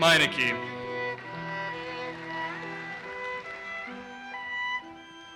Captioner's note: audience applauses